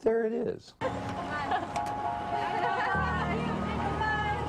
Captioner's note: people chattering